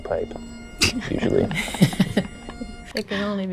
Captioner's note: traditional bagpipe music; band members laugh